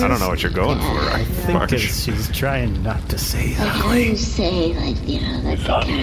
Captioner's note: whispering loudly